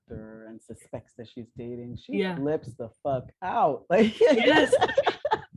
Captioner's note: laughter